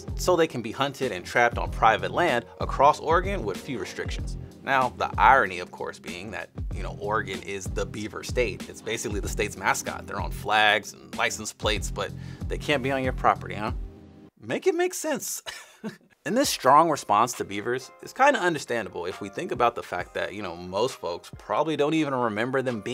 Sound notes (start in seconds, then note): 15.4 chuckles